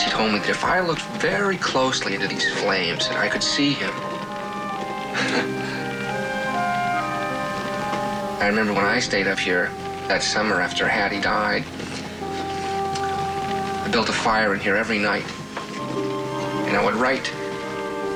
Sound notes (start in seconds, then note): 4.1 chuckles